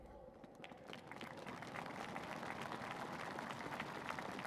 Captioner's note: applause